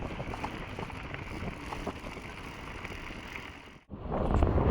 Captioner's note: strong wind